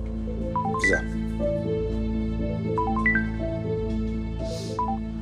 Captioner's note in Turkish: Telefon çalıyor